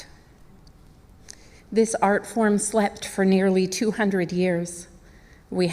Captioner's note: speaking native language